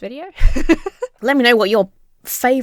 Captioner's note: laughs